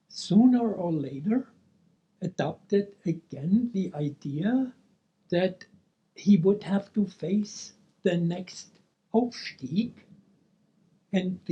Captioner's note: speaking German